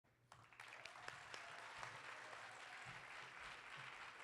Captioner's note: audience applauding